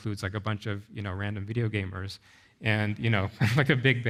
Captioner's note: chuckles